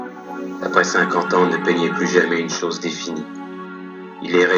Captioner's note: voiceover of man speaking in french